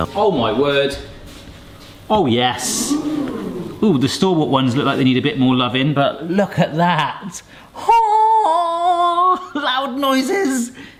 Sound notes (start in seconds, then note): 2.7 crowd; 8.1 groans